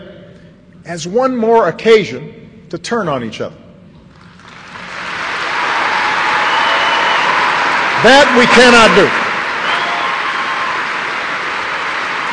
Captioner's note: applause